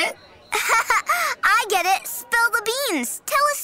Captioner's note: laughs